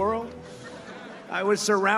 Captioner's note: audience laughs